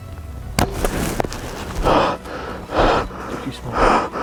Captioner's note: bow popping